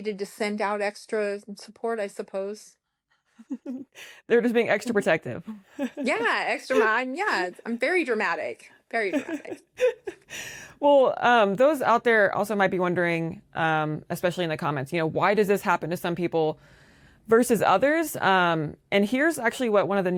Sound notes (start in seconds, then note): 9.1 laughter